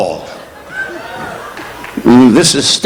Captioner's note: audience cheering